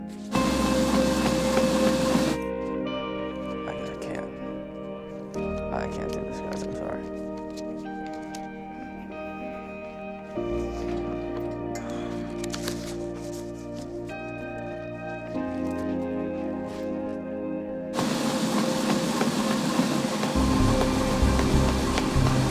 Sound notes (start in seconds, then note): 0.3 treadmill whirring loudly; 8.4 expressive guitar over dramatic electronic music; 17.9 treadmill whirring loudly over dramatic electronic music